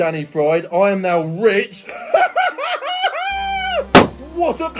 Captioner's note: laughs